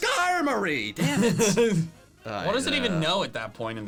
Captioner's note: laughing